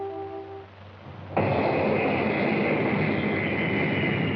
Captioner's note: turbines whirring